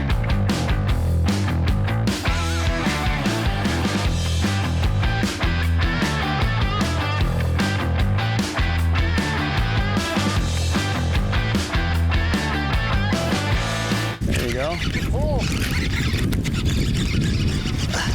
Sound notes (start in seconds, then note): 14.6 fishing rod whirring